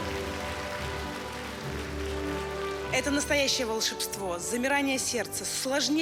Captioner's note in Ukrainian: оплески